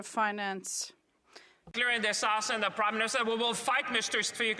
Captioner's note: some applause